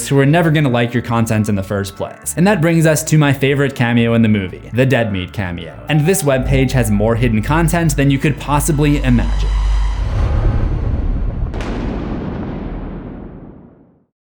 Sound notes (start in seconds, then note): 10.0 impact